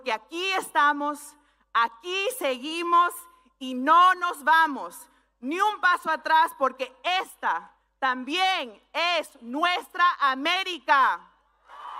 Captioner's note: speaking spanish